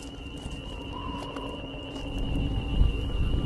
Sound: scanners hum

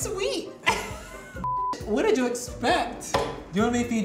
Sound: beep

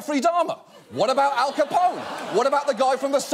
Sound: audience laughs

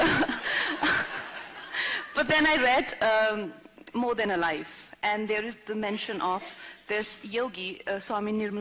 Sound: laughter

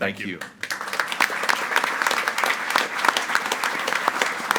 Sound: group applauding

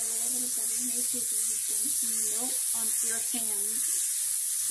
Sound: butter sizzling

